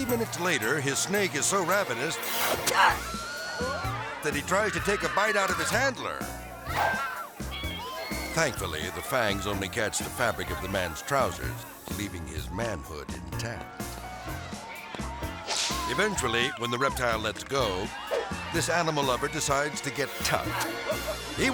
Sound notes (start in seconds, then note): 7.7 mysterious music; 7.7 people screaming; 13.8 hand thumping; 13.8 melodic music; 18.0 air swoosh